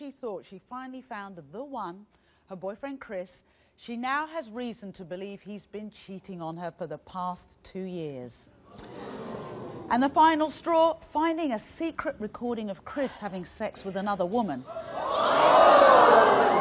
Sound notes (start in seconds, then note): 8.8 audience gasping